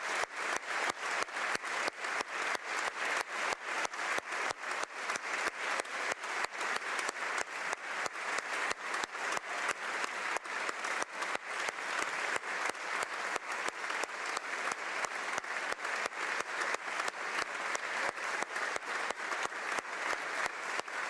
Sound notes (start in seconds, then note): 4.9 applause